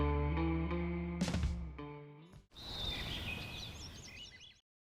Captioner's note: birds chirping